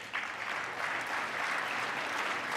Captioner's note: applause